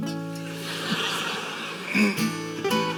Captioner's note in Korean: 웃음